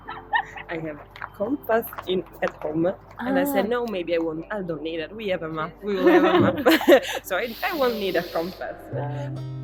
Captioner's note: laughts; laughts